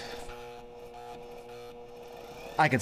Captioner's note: machine straining